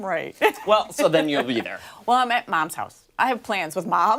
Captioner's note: laughter